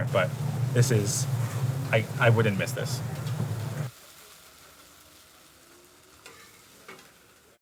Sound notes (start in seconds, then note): 1.1 food sizzling; 4.0 food sizzling; 6.2 wok scraping